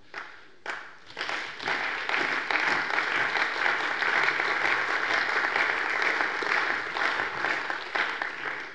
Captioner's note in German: Allgemeiner Beifall